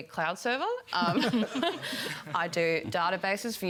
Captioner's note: laughter